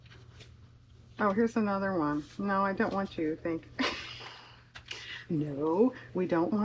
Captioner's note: laughs